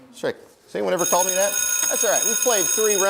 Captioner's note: bell rings